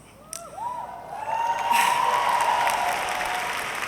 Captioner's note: audience cheering